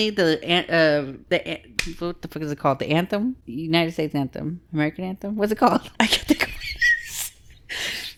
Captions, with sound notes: the, what the fuck is it called? The Anthem? - United States Anthem, American Anthem, what's it called? - I get the question. (laughs)